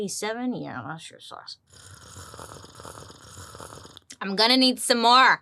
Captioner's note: slurps